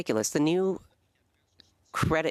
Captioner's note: speaking French